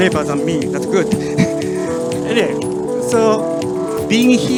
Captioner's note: audience laughs